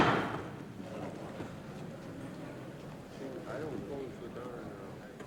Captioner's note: gavel bangs; crowd chattering